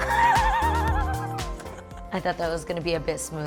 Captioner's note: laughing